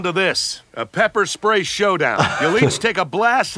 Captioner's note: laughing